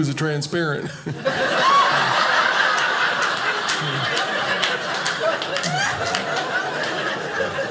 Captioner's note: audience laughing